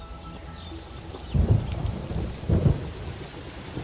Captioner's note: thunder rumbling